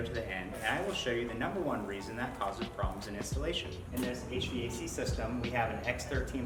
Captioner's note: hvac